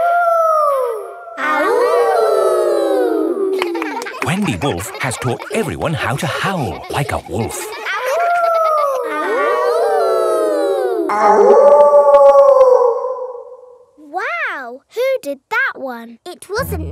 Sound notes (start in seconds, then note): 0.0 howling; 1.8 kids howling; 9.1 howling; 9.7 kids howling; 11.7 wolf howling loudly